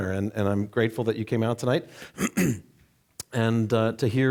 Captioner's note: clearing throat